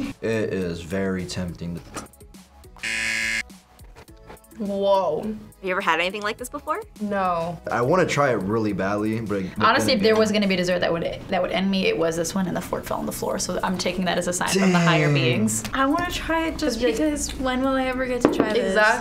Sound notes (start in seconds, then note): 2.8 buzzer rings